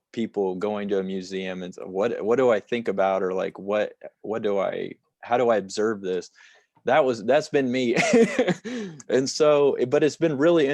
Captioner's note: laughter